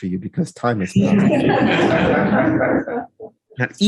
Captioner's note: laughing